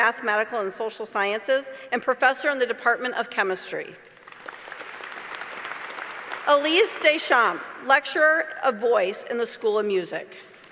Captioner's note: applause